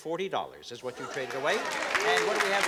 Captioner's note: cheering and applause